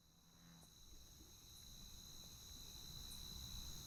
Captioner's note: cicadas buzzing